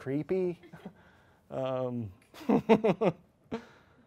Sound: chuckles

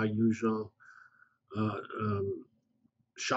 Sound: pause

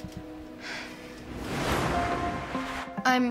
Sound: sighs

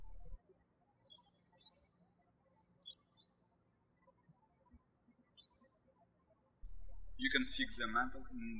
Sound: birds chirping

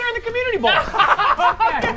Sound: laughter

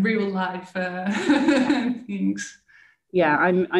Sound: laughing

